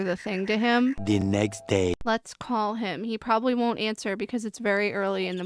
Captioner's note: french accented male narrator voice